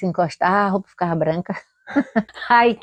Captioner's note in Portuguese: Risos